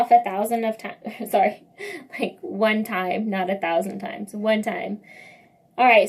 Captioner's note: laugh